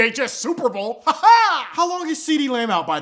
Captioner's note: weird laughing